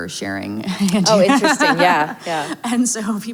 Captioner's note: laughs